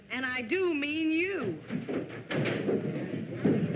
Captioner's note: stomping on stairs